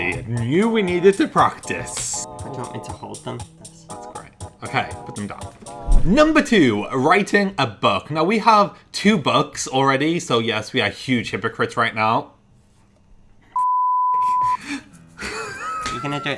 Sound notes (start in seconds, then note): 12.6 beeps; 15.2 laughs